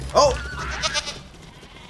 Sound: goat bleating

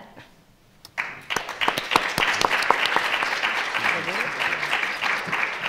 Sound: audience applauding

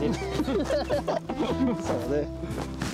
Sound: laughing

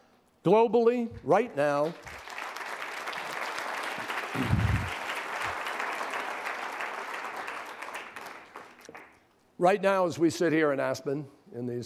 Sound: applause

